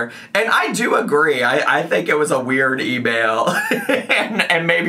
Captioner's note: laughs